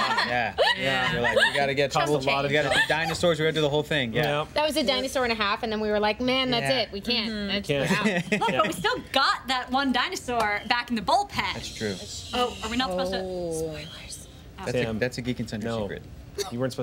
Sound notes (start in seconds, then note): 11.5 shushing